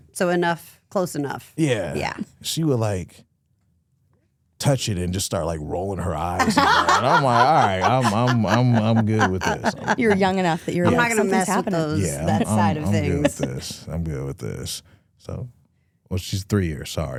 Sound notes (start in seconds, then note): 6.8 hosts laughing